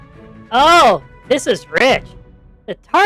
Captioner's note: laughs